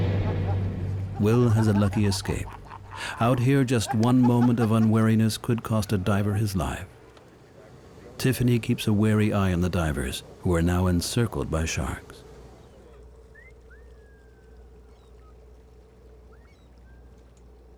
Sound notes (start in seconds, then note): 1.1 divers laughing